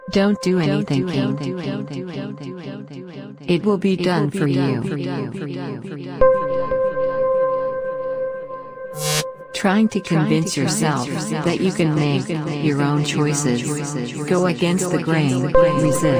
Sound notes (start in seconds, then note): 8.8 screen crackles; 10.8 voice echoing